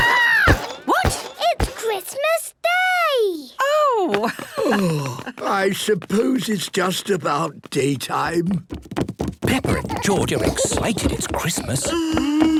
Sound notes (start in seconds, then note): 3.6 laughing